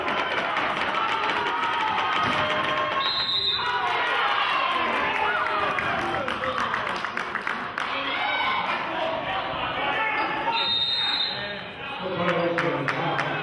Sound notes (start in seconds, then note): 3.0 whistle blows; 3.3 cheering and clapping; 10.4 whistle blows; 12.5 clapping